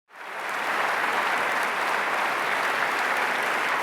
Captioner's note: applause